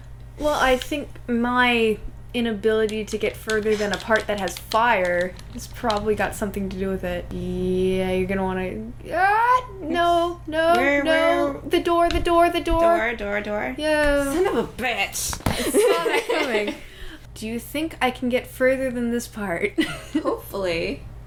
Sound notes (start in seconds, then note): 15.6 laughter